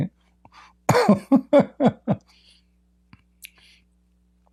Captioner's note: Ketawa